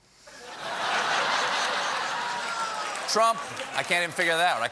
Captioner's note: laughter